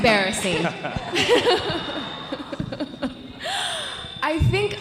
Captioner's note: audience laughing